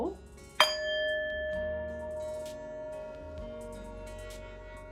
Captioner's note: bowl dings